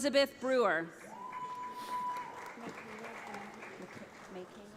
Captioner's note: audience applauds